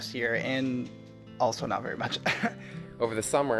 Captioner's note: chuckles